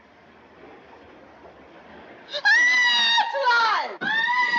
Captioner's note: screams